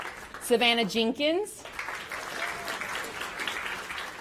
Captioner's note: applause